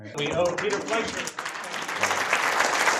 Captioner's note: applause